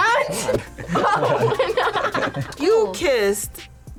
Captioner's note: laughs